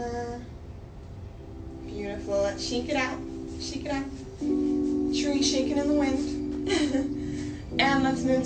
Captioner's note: laughs